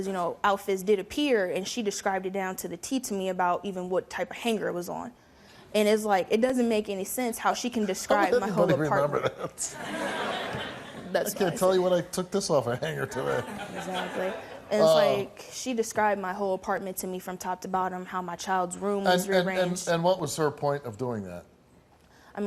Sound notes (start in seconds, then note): 13.2 audience laughs